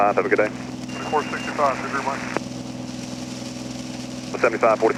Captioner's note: male Voice